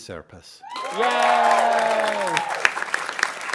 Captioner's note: audience cheering and applauding